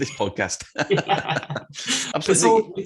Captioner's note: both laugh